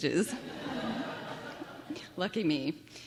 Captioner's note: laughter